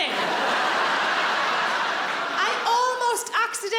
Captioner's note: audience laughs